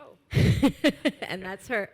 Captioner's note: laughs